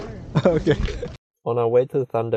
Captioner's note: laughung